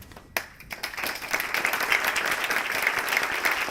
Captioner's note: applause